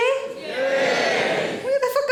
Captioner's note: audience cheering